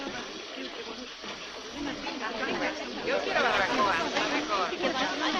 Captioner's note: stationmaster yells in Spanish; chatter in Spanish